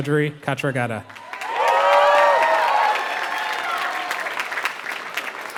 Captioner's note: applause